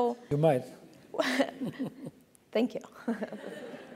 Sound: laugh

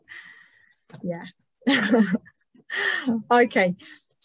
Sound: laughs

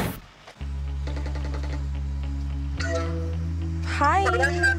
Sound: phone ringing

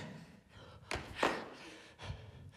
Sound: Amanda claps

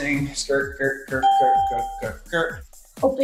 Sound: ding

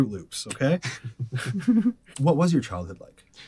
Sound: both laugh

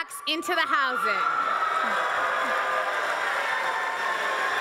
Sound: crowd applauses

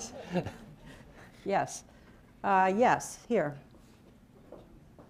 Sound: laughter

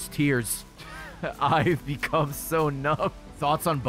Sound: laughs

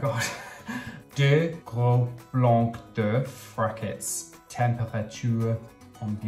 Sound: speaking in foreign language

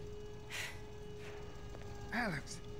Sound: gasp

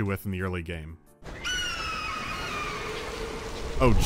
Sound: falcon cry

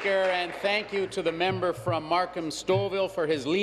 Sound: applause

